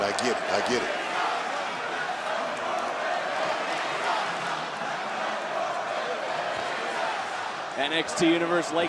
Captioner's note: crowd chants